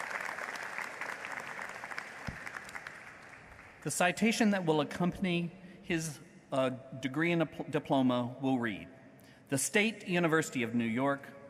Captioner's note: applause